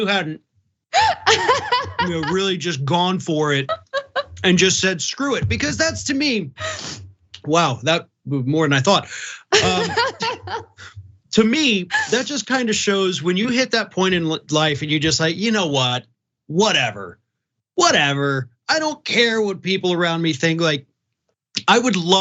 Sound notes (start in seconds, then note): 9.5 laugh